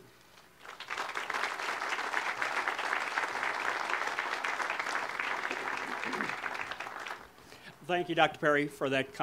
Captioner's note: audience applause